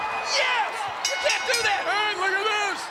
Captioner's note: bell dinging